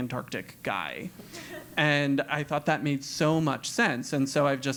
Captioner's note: laugh